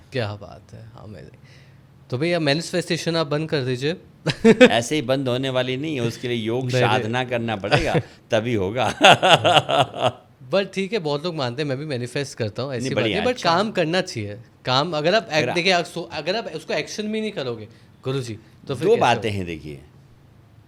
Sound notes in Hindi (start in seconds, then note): 8.8 हंसी